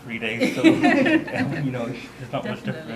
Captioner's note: audience laughter